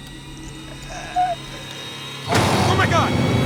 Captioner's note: grunts